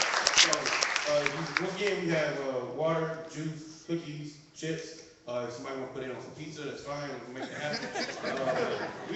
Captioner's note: laughing